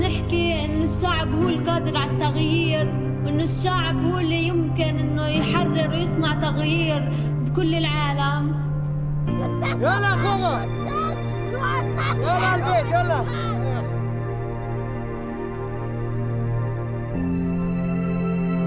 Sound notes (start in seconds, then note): 9.8 speaking foreign language; 13.5 dramatic orchestral music